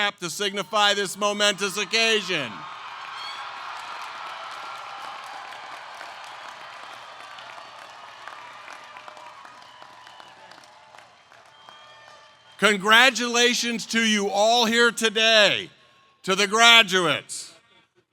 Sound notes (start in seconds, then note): 2.2 applause